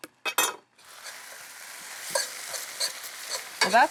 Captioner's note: sizzling